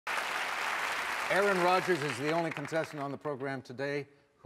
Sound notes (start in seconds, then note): 0.0 audience clapping